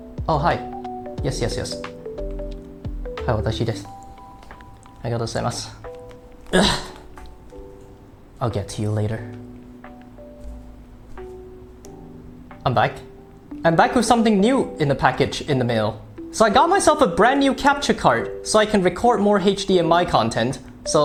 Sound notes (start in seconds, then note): 0.0 ding dong; 6.4 grunt